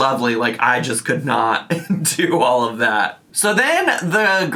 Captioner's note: laughs